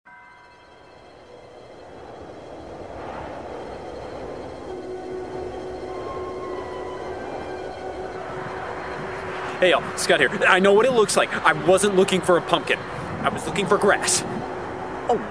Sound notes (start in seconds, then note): 0.2 scary violin music; 4.3 wind blowing